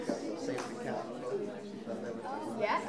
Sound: classroom chatter

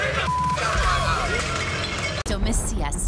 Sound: beep; glass breaking

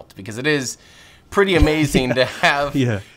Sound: Peter laughs

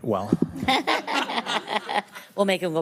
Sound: all laughing

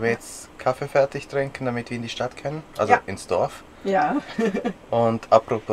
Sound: laughs

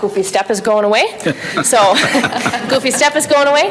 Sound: people laugh

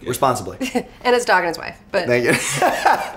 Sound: laughs

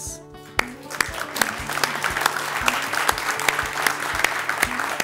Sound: ^applause^

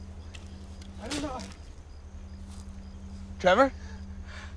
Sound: branch cracking

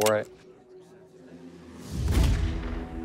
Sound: gunshot

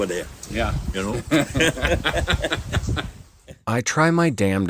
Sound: both laugh

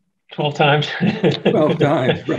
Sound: laughing

